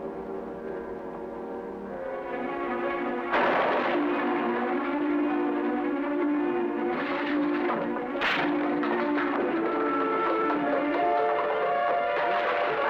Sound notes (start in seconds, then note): 3.6 coal crashing; 7.0 suspenseful music